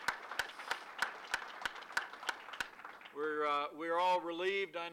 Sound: applause

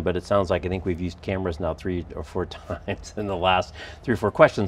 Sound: laughs

